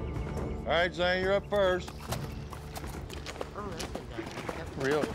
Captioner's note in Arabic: ضربات حوافر